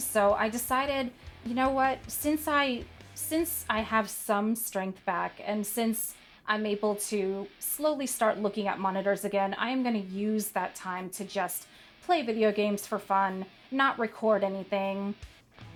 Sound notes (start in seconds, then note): none